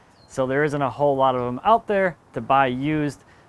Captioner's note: none